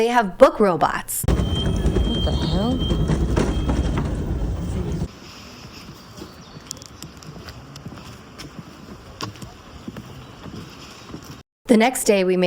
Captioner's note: hoots